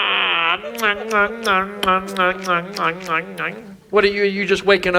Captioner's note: lip smacking